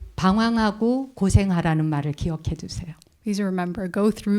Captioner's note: speaking in Korean